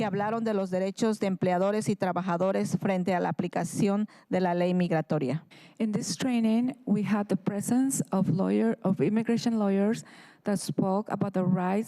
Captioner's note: speaking in spanish